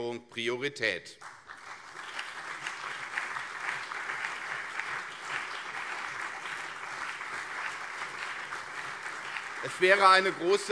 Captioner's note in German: Beifall CDU und SPD